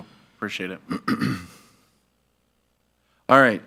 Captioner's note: clears throat